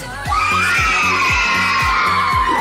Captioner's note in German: Jubel